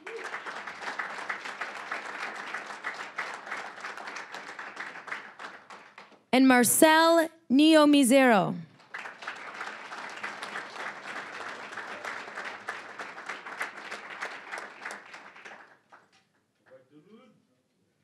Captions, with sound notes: (applause) And Marcel Niyomizeno. (applause)